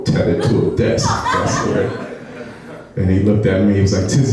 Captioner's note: laughing